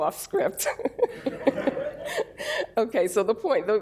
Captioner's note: laughter